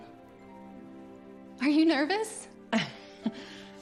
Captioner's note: chuckles